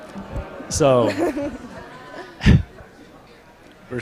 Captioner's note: laughs